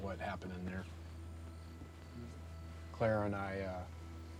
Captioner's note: crickets chirping